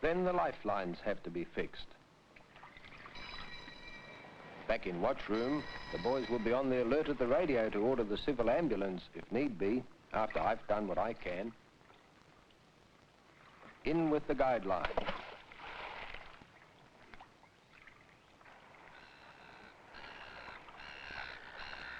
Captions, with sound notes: Then the lifelines have to be fixed. Back in Watch Room, the boys will be on the alert at the radio to order the civil ambulance, if need be, after I've done what I can. In with the guide line. (Splash). (seagulls squawking)